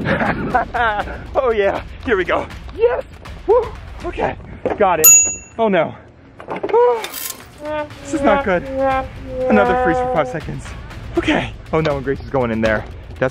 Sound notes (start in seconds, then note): 0.0 laughing; 5.0 dings; 7.2 cracks; 7.6 sighs; 7.9 sad trombone